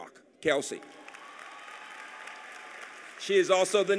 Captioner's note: applause